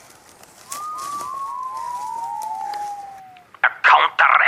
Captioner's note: strange whistling